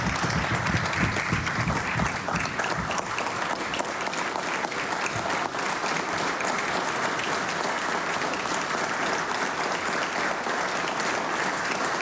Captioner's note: applause